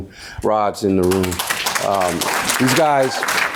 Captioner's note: audience applauding